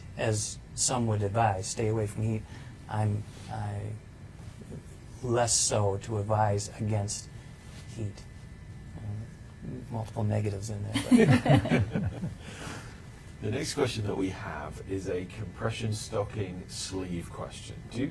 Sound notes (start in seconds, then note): 10.9 panel chuckling